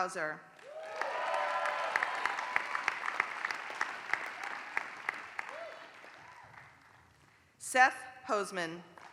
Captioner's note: applause; applause